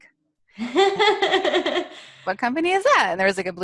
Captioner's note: laughs